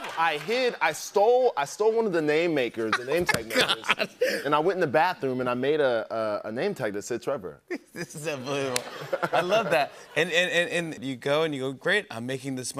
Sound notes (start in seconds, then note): 7.7 laughter